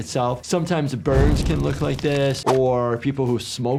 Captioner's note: fire crackling; intense music; swooshing music